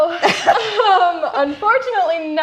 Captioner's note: both chuckle